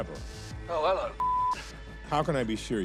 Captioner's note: beeping